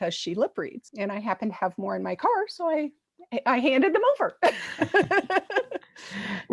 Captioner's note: laugh